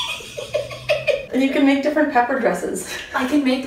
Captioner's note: laughs